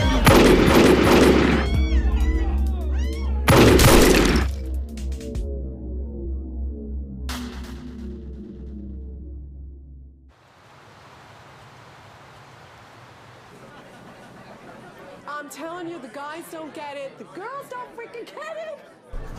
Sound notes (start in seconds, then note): 1.0 gun firing